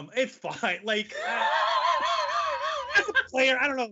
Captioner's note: laughing loudly